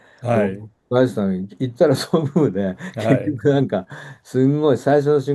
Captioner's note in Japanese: 笑い